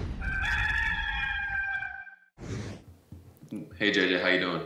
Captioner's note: rooster crowing